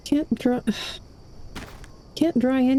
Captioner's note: sigh